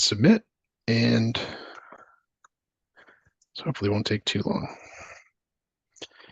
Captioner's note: click